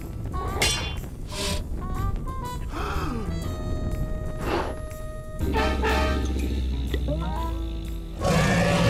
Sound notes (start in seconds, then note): 2.7 gasps; 4.1 blows softly; 5.4 growls; 8.1 dragon roars